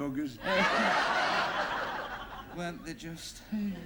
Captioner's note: laughter